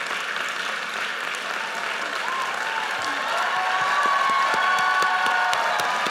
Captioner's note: audience cheers and applauds